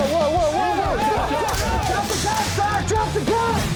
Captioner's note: all shouting